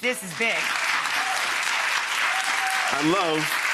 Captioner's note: crowd applauding